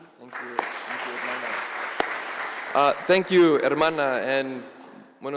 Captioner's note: applause